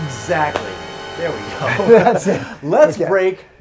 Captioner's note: ominous musical flourish; both laughing